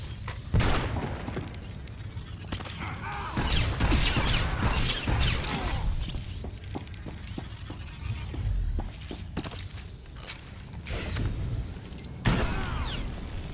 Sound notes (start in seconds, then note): 2.5 gunshots